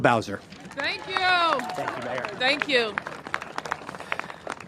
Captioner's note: cheers and applause